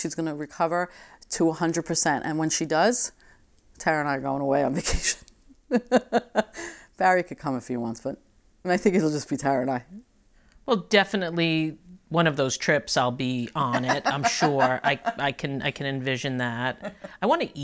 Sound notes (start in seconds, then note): 5.8 laughing; 13.6 laughing